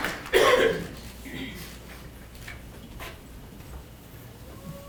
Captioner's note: people clapping